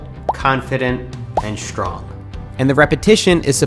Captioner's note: text popping; text popping